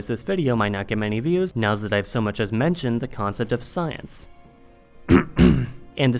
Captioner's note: cough